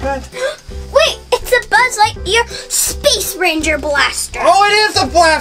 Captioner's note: gasps